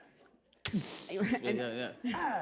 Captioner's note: laughter